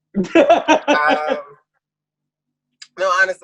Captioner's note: laughs